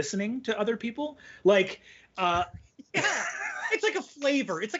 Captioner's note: chuckles